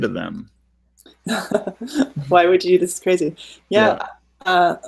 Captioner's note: laughing